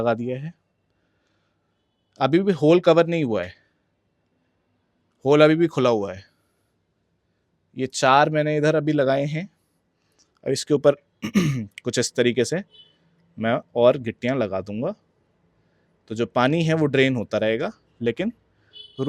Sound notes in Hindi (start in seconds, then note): 11.2 गला साफ़ करने की आवाज़